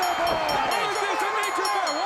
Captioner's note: bell ringing